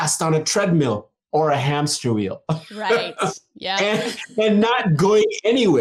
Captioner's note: laughs